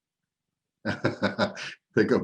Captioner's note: laughing